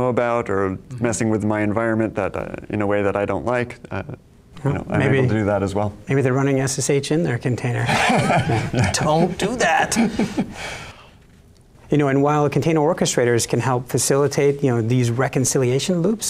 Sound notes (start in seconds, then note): 7.8 all laughing